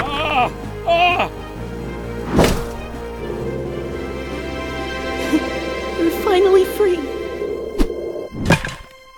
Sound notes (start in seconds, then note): 2.2 crash; 3.0 triumphant music; 7.3 thud; 8.9 unnerving music